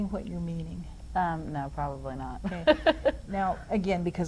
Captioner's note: laughs